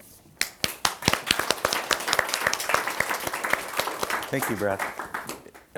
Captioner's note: audience applauding